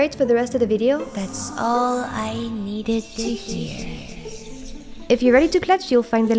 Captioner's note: ominous voice fading